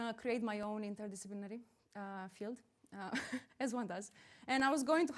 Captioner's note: chuckles